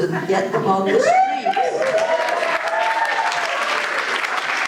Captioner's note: applause